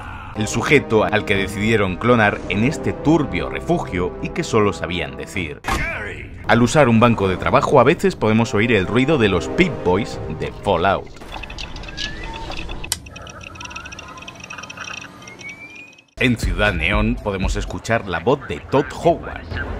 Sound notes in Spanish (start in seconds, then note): 0.0 Gritos: ¡¡Gary!!; 5.5 Gritos: ¡¡Gary!!; 11.2 Pip-Boy booting sound